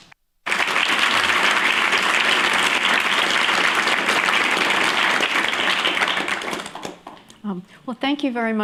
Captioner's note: applause